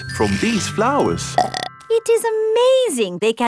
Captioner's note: burps